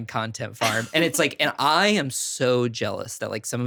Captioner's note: chuckling